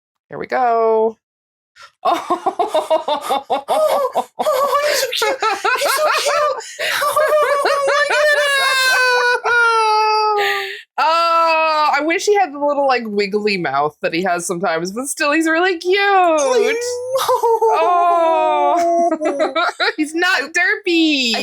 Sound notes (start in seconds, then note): 6.0 general excited noises